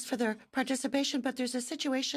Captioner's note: speaking French